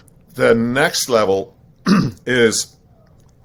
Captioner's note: clears throat